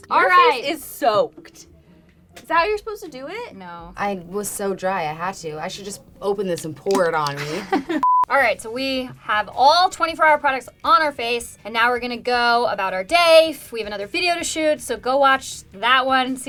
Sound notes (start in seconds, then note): 7.4 laughing; 8.0 beep